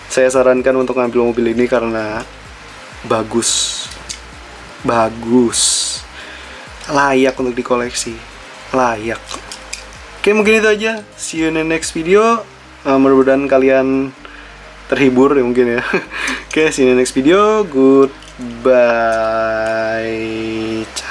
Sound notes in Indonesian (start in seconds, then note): 15.7 tertawa